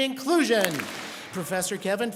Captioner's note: students clap